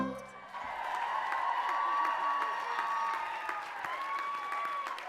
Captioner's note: audience cheering and applauding